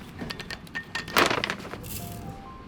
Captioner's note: glove squeaking; cap clattering; bag crunching; product spattering; light music